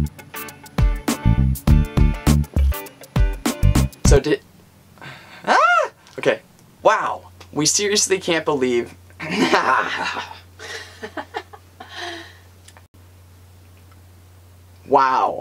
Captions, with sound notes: So did… ahhh! Ok. Wow! We seriously can’t believe [clearing throat and laughing]. Wow.